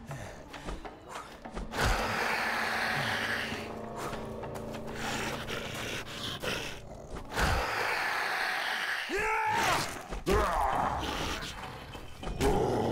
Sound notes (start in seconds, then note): 3.2 in pain; 8.8 weird pain noise again